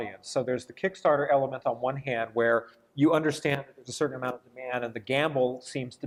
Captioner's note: none